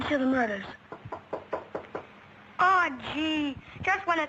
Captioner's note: knocking